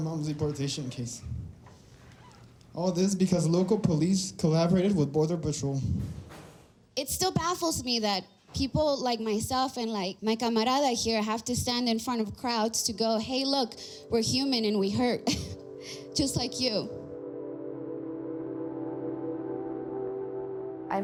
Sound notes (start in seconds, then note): 15.8 sighs; 17.9 intriguing music